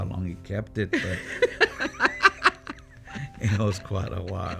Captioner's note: laughing